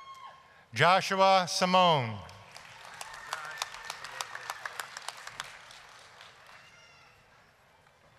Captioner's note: applause